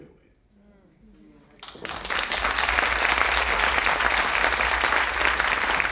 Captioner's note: audience applauding